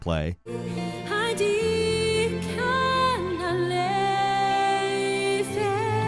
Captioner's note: singer speaks in foreign language